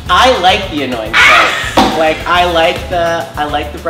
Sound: laughing and pounding table

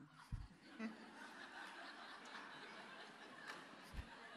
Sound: audience laughing

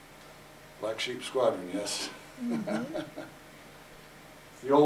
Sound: chuckle

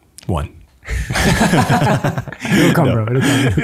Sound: all laugh

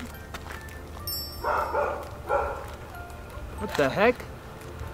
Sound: sparkling; dog barking

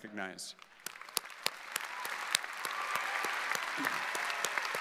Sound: audience applauding

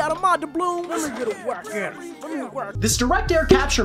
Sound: angry crowd

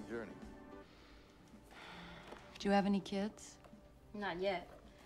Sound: Kate Sighs

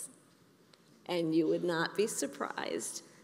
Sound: none

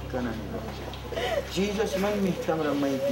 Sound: speaking native language

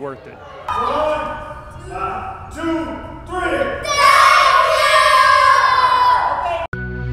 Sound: cheers

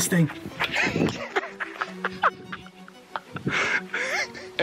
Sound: Simon laughing

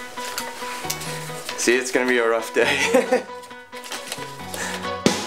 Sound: laughs

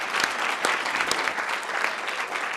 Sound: applause

